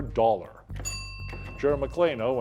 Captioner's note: bell ringing